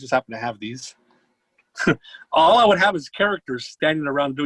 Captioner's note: chuckles